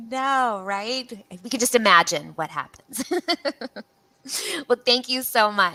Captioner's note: laughs